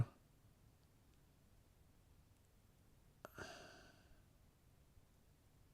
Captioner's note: silence